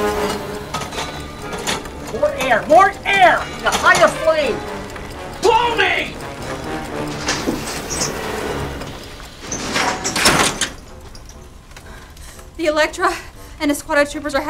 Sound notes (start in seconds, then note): 5.2 yells